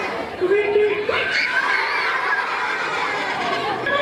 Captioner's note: children scream and laugh